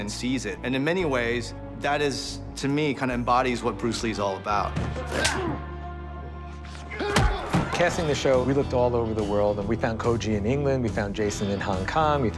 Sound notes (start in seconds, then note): 4.8 punch lands; 5.1 grunts